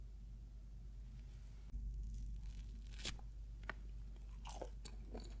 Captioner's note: eating sound